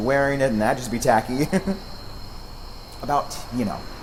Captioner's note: laughs